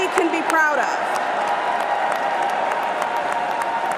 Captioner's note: cheers and applause